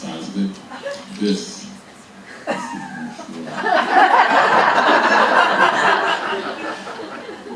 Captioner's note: audience laughing